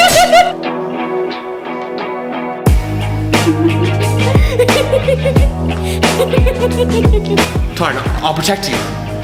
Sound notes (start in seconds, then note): 3.3 giggling